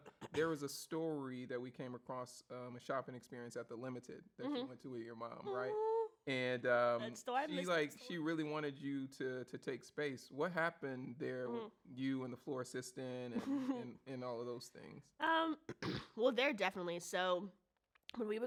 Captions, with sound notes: - There was a story that we came across, a shopping experience at the Limited that you went to with your mom, right? - That's the one next to. (speaks faintly) - And she really wanted you to take space. What happened there with you and the floor assistant, and all of those things? - (clears throat) Well, there, definitely,